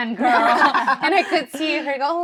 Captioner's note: all laughing